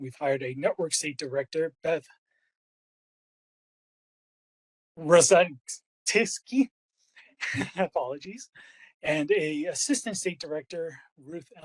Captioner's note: laugh